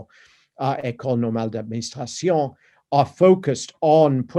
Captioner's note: speaking french